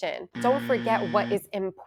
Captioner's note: buzzer ringing